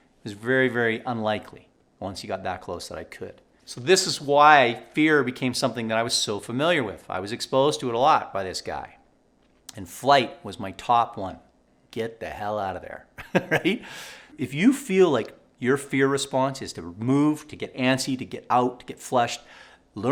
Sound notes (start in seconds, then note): 13.2 laughing